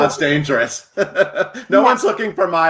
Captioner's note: laughs happily